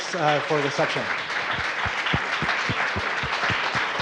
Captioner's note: applause